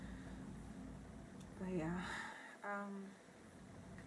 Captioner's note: sighs